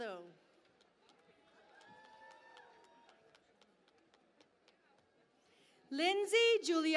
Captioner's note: cheering and Applause